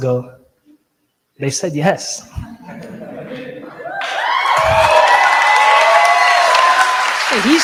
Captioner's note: audience cheers & applause